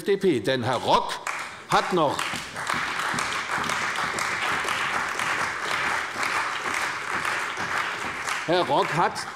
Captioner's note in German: Beifall bei der CDU und dem BÜNDNIS 90/DIE GRÜNEN